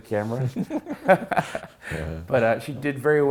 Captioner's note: laughs